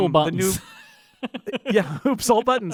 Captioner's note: laughing